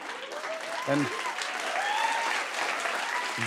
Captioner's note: cheers and applause